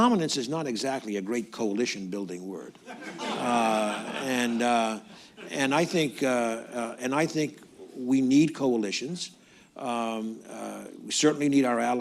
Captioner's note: laughter